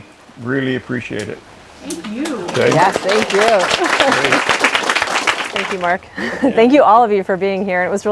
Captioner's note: applause